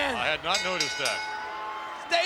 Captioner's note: bell dinging